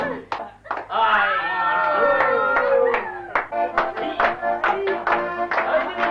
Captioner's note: cheering